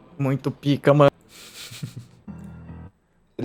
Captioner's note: laughter